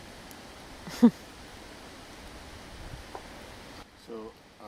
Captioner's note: chuckles